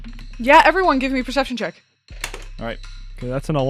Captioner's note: dice clacks